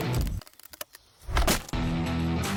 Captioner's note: wood cracks